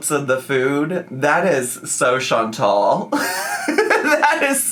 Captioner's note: laughs